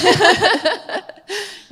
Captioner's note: laughter